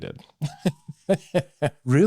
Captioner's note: laughs